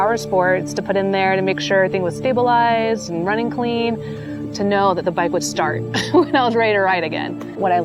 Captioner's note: laughs